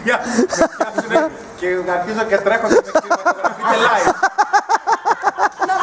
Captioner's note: laughs